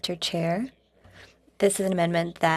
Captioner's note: speaking French